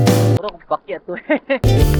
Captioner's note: laugh